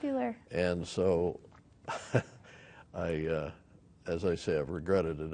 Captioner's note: laughs